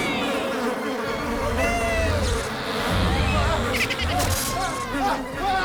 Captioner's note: screams